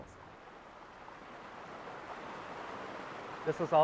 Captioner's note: water guggling